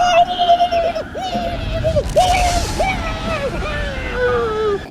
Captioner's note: screams; gurgling